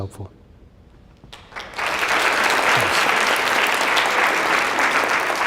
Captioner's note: applause